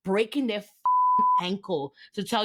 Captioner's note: beep